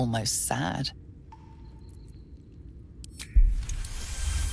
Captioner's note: echoing water droplets, cavern ambience